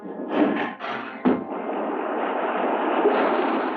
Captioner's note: waves crashing